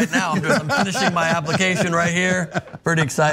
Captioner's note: laugh